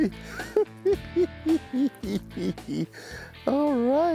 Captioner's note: chuckling